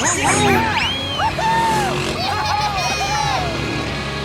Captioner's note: cheering